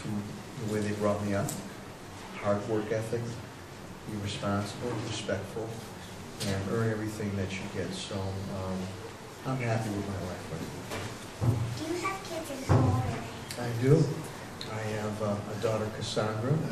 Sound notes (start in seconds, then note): none